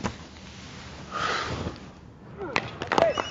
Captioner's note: sighs